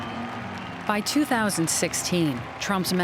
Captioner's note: people applauding and cheering